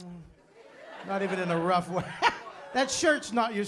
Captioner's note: laughter